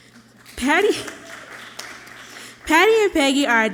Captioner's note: audience clapping loudly